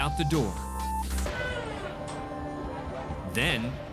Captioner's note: door creaking